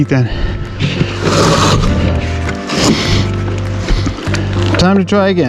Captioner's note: wood dragging on ground